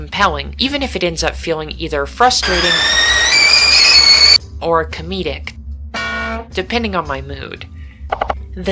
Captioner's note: tea kettle boiling; bonk!